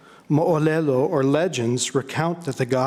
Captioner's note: speaking in foreign language